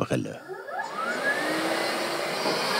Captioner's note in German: Schleifgeräusche